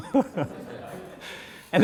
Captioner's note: laughter; laughs